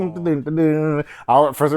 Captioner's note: humming